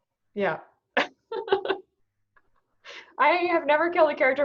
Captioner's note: laughing